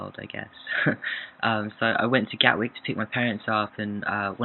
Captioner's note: laughs